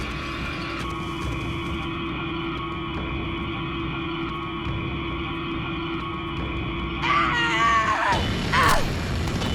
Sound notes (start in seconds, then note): 7.0 Riley screams